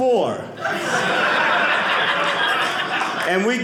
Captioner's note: audience laughing